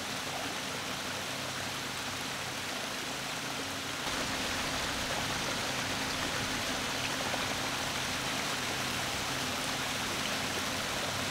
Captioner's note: waterfall sounds